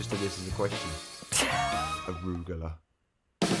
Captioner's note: laughs